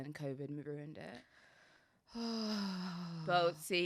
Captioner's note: sighs